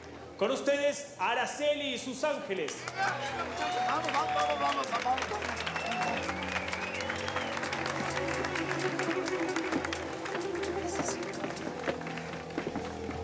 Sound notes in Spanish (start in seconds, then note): 2.9 gritos y exclamaciones; 3.1 aplausos